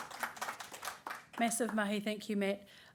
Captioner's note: applause